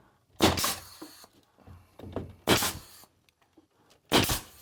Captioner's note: nail gun thudding